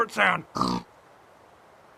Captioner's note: pig oinks